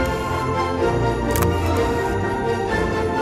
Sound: camera shutter click

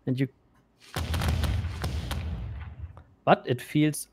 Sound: volley of booming sounds

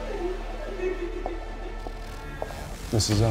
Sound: indistinct cries

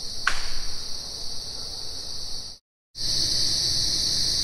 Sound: knocking sound

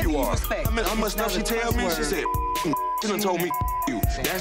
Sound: beep

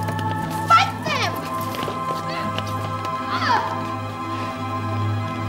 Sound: grunts

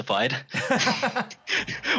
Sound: laughs

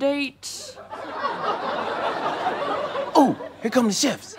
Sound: audience laughs

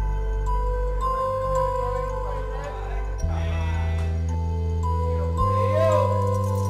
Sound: gentle music; people chattering; chain rattling

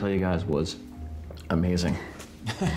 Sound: chuckling awkwardly

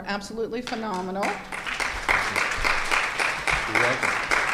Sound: audience clapping

